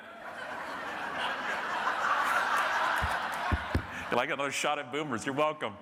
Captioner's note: audience laughing